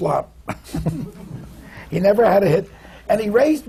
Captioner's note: laughs